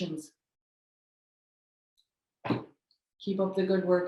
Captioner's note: silence